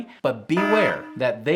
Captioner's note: buzzer ringing